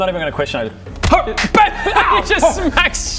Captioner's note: hrgh